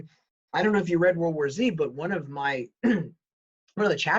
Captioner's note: clears throat